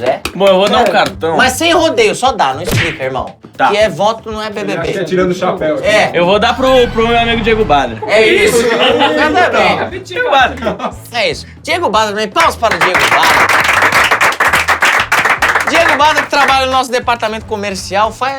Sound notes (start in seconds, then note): 8.4 risos; 12.4 palmas